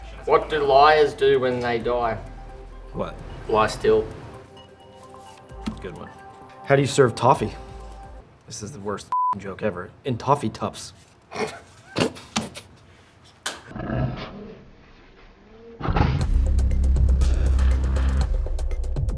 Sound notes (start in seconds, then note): 9.1 beep; 11.4 both laughing; 13.8 laughing in slow motion; 16.6 upbeat music